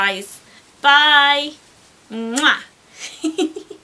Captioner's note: giggles